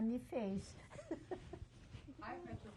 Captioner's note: laughs